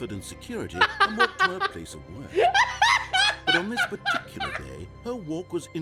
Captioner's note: laughs